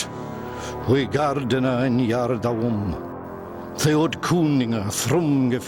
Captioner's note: man speaking Old English